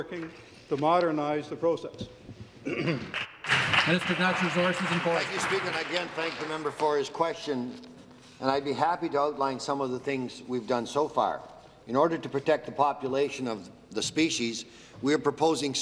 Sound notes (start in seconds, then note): 6.1 some Applause